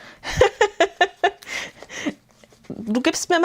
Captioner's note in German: gelächter